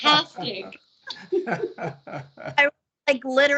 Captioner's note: laughing